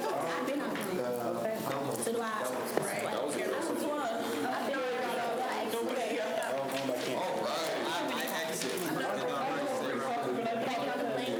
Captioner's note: students chatter